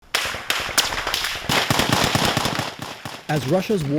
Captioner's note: guns firing